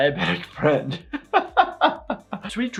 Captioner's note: laughing